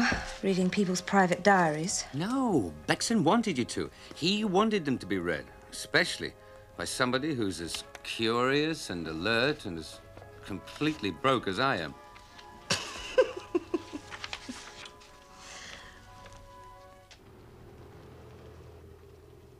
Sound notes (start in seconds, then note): 12.6 laughing